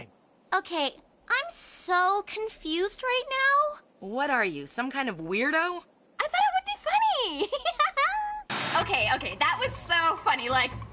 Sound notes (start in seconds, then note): 7.3 giggles